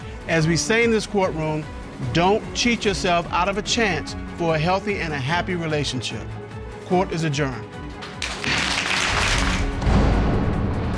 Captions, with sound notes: As we say in this courtroom, "Don't cheat yourself out of a chance for a healthy and a happy relationship." Court is adjourned. [audience applauding] [dramatic music playing]